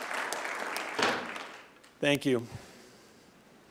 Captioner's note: gavel banging